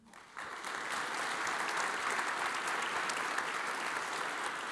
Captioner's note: audience applauds